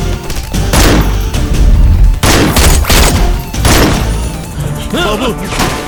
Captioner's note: gunshot